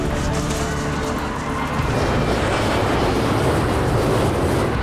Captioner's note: all screaming